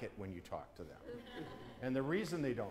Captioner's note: laughter